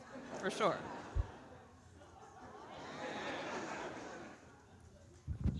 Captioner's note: audience laughing